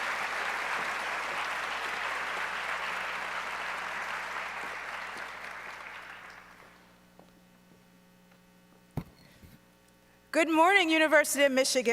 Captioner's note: applause